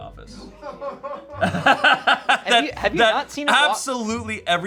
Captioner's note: everyone laughs